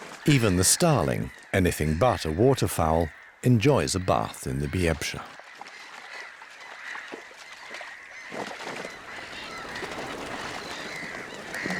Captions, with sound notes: Even the starling, anything but a waterfowl, enjoys a bath in the Biebrza. [birds tweeting]